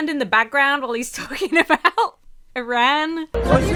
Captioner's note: laughs; upbeat music plays